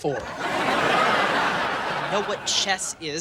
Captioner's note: audience laughing